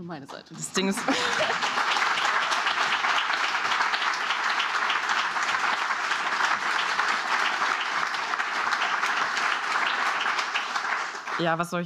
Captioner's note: applause